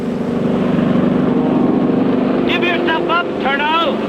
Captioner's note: airplane engine whirring